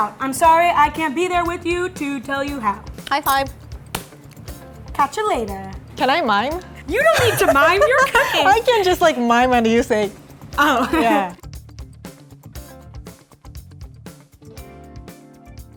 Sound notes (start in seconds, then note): 3.9 slap; 10.6 laughing; 12.2 light electronic music